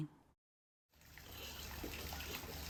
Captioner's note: pattering rain